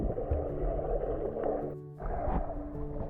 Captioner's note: water bubbling